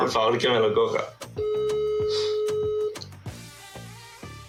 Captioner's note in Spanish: Tono de llamada